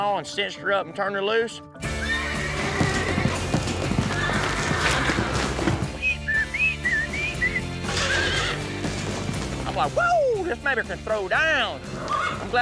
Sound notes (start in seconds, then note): 1.8 horse neighs; 5.9 whistling; 7.7 horse neighs